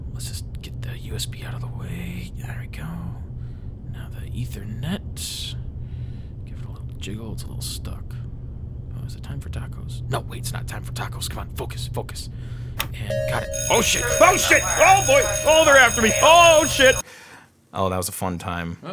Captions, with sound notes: Let's just get the USB out of the way, there we go. Now the ethernet, give it a little jiggle, it's a little stuck. Is it time for tacos? No, wait it's not time for tacos. Come on, focus, focus! And got it! (alarm ringing) Oh shit, oh shit, oh boy! Oh they're after me, oh shit! That was a fun time.